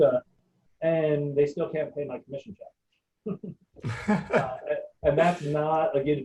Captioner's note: chuckling